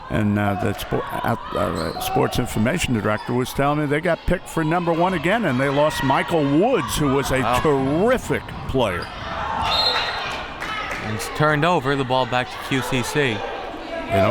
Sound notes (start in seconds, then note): 9.6 whistle